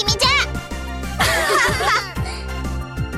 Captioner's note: laugh